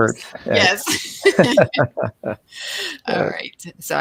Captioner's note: both laughing